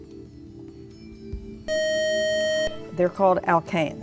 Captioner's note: beeping